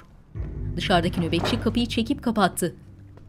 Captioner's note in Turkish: Kapı kapanma sesi